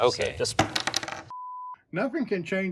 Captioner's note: CPU hitting table